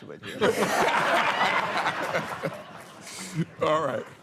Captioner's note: laughter